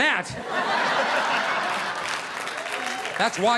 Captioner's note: audience laughing